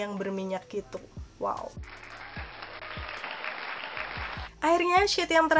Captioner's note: applause